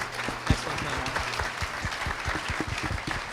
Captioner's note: applause